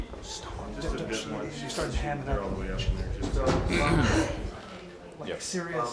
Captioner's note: clears throat